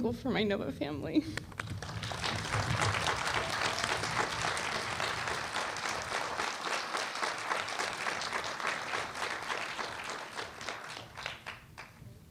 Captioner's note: applause